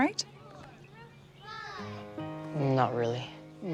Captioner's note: children shouting indistinctly